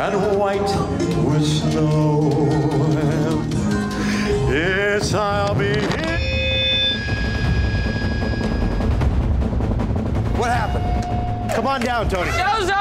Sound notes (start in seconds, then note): 5.6 microphone feedback